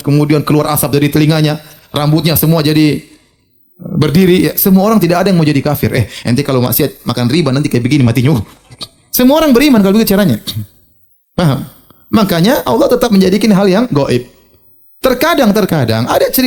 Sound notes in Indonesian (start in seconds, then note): 11.7 berdehem